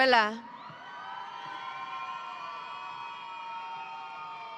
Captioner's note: audience cheering